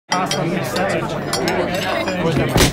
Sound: chatter

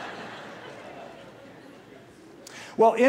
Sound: laughter

